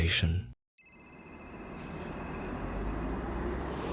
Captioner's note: phone rings